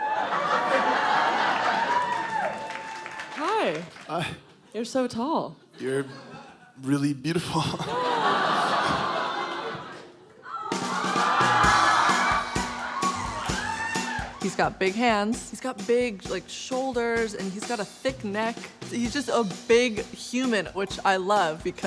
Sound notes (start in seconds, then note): 0.0 crowd laughing; 2.2 crowd applauding; 8.1 crowd exclaiming; 10.7 upbeat music; 13.0 Sylvester gagging